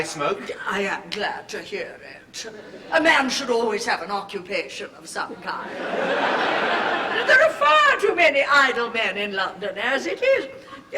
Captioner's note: laughter